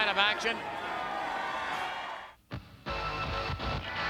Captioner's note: audience cheers